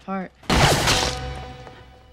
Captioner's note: gun shot; splatter